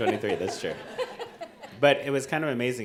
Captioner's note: audience laughing